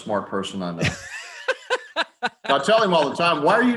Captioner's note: laughing